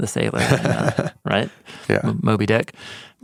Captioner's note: chuckles